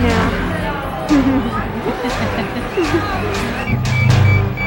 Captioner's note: laughing; beeping